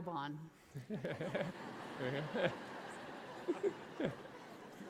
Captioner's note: audience laughing